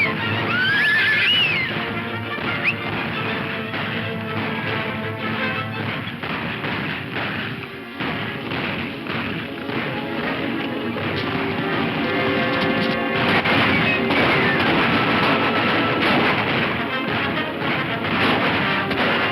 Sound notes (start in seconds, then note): 0.0 horse whinnying; 2.8 upbeat dramatic music; 5.8 guns firing